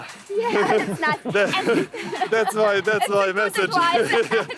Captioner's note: laughing